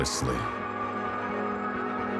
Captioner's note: siren wailing